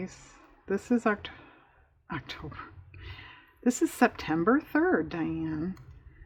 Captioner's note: sighs